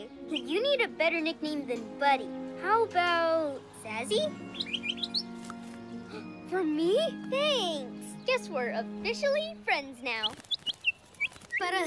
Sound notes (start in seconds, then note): 4.3 chirps; 6.3 gasps; 10.1 chirps